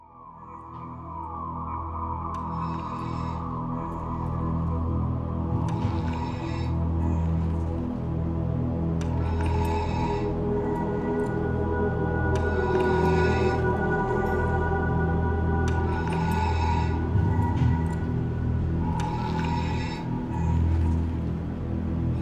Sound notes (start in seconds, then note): 0.2 eerie music plays; 5.3 mechanical respirator breathes in and out